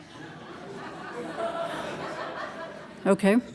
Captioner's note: audience laughing